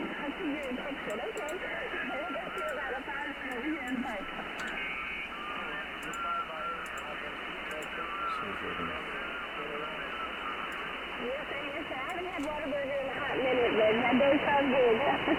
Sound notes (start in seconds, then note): 7.4 Static